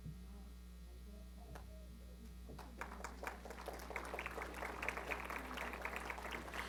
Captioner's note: applause